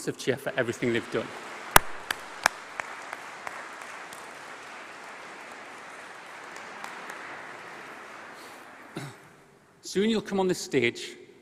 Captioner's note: applause